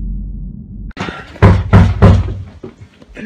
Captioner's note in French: Toc! Toc! Toc!